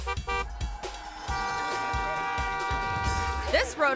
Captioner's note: horn honking